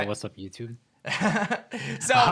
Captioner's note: chuckles